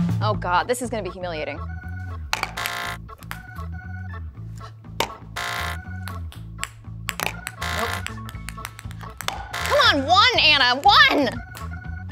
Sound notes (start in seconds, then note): 0.0 upbeat music; 2.2 buzzer buzzes; 2.2 upbeat music continues; 7.2 buzzer buzzing continues